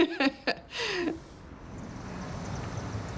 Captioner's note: laughs